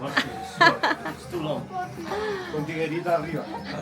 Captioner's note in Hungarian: nevetés